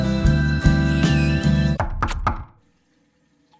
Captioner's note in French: coups à la porte